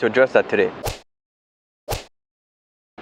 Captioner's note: slashing sound effect